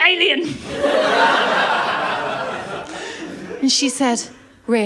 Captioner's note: laughter